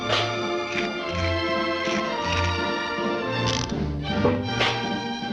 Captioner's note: trash can clanging; bugs crunching; trash can clanging